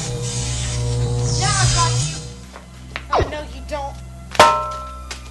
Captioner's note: electrical noises; zaps; clang of pan